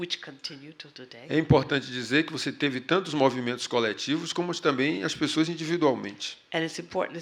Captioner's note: speaking portuguese